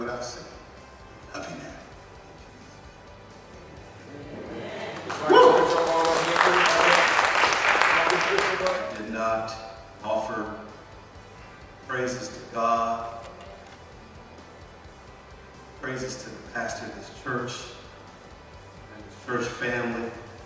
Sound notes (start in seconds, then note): 4.4 audience applauds; 5.9 group chattering